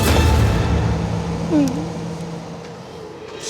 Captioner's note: crying; tense music